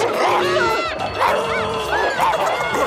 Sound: barking, screaming; laughing

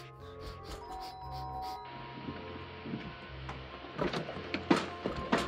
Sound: doorbell ringing

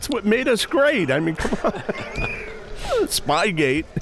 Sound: laughing

